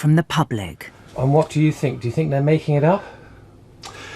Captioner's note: voiceover